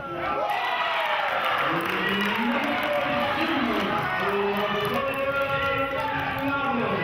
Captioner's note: cheering and clapping